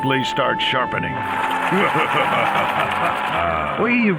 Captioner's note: evil laughter